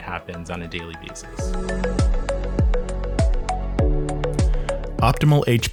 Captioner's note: voiceover